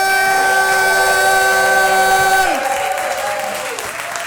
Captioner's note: audience applauding